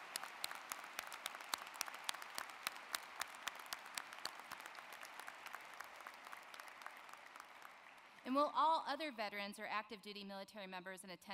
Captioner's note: applause